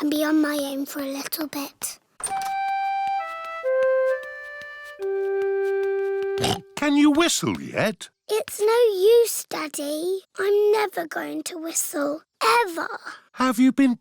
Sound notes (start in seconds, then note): 6.4 snorts